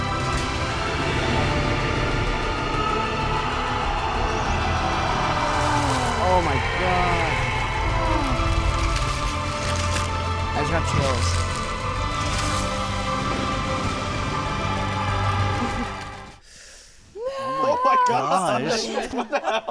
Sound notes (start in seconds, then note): 4.6 dramatic music; 5.9 Eddie screams; 13.0 dramatic music